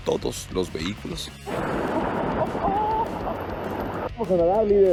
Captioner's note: water running